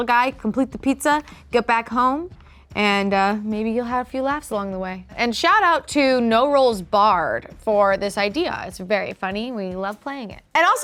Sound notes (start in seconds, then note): none